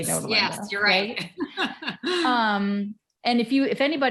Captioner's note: chuckles